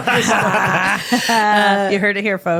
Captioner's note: laughing